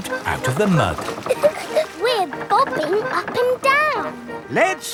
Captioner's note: chuckles